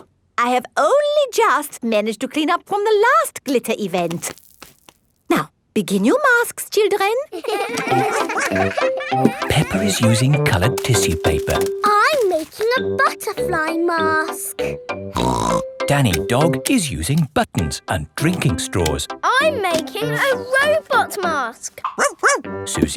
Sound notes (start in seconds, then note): 7.3 all giggling; 15.1 snorts; 21.9 barks